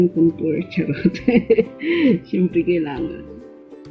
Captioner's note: laugh